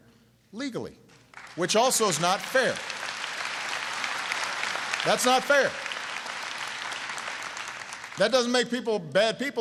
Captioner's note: applause